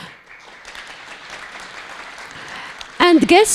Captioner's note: audience applauding